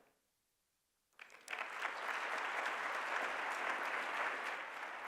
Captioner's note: applause